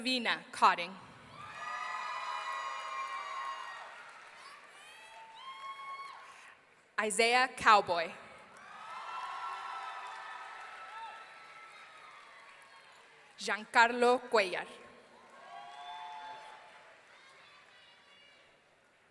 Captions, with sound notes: Savina Codding. (audience cheering) Isaiah Cowboy. (audience cheering) Jaancarlo Cuellar. (audience cheering)